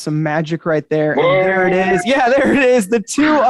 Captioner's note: exclaiming